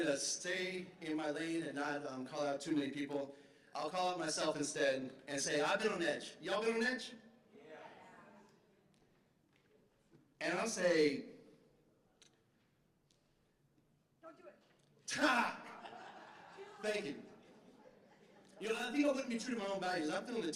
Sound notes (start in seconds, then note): 15.2 laughter